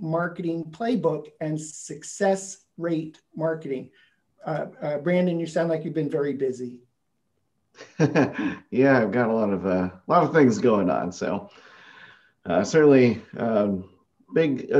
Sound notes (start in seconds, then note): 6.2 laughing